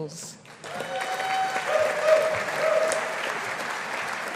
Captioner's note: audience applauding